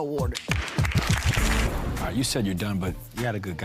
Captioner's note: clapping